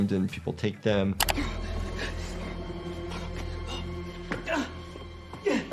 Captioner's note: panicked breathing, grunting